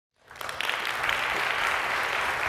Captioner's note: applause